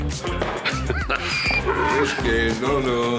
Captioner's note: laughing; donkey braying